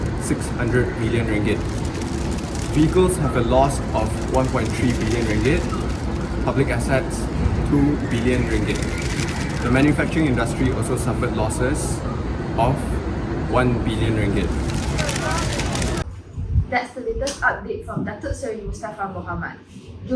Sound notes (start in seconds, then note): 14.4 cameras flashing and clicking